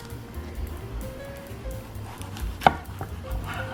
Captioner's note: thumping